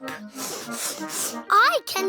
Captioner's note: all sniff